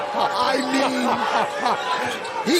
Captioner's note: laughter